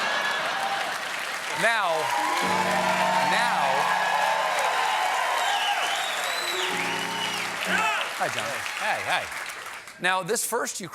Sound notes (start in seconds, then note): 2.6 cheers and applause; 2.6 piano riff